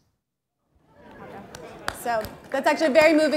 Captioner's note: applause